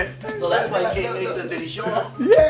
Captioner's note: laughs